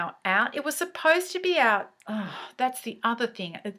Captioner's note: sigh